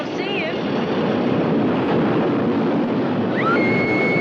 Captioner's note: air whooshing; woman screaming